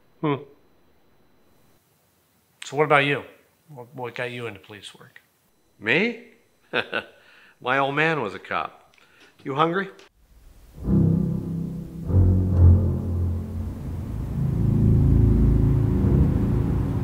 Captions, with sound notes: - Hmm. - So what about you? What got you into police work? - Me? (chuckles) My old man was a cop. You hungry? (ominous music)